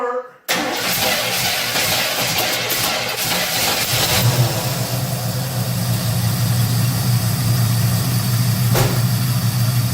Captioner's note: engine starts and idles